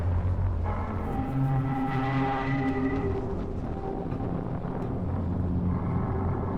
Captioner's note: menacing electronic noises continue